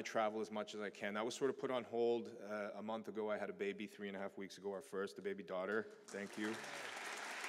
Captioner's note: applause